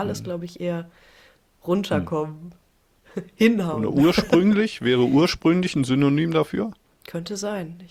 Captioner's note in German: gelächter